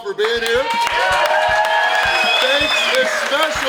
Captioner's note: audience cheering